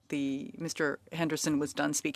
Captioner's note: speaking French